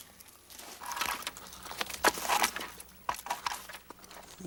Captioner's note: stick scraping